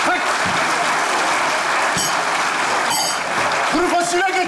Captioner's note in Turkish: Alkış sesleri